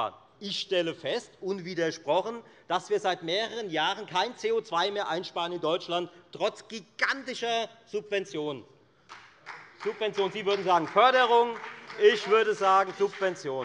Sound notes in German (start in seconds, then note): 9.0 Beifall bei der FDP